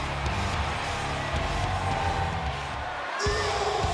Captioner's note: applause